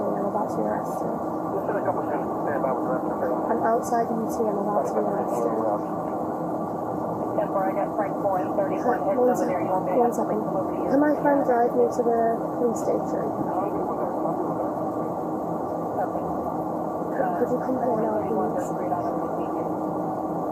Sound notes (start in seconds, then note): 1.5 radio chatter; 7.2 radio chatter